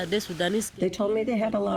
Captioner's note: through translator